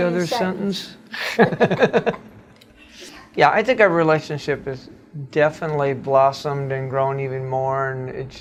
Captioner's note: laughs